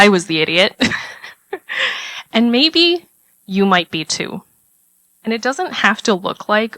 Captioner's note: laugh